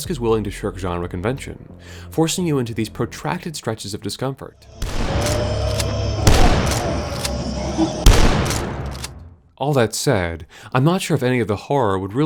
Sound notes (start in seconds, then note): 4.6 Inferal screaming and shotgun blasts